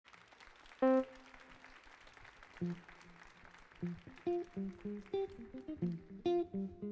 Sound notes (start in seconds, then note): 0.0 audience applauding; 4.1 mellow music